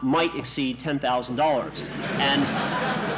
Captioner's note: laughter in the courtroom